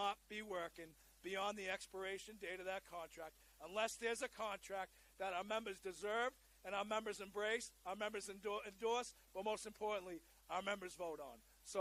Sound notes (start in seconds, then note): none